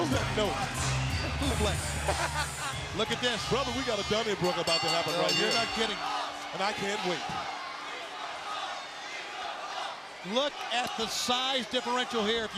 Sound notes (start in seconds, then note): 1.7 laughs